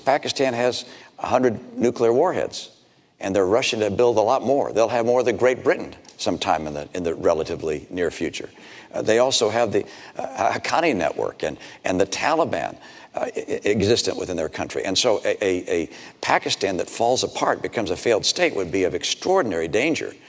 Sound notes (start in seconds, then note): none